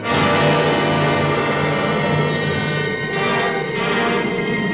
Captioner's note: wind howls